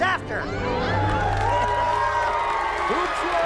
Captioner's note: cheering